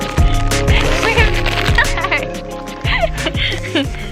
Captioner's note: packet crinkling